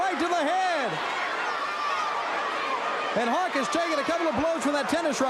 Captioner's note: crowd cheering